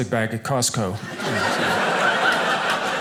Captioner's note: audience laughing